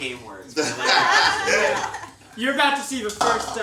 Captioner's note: all laugh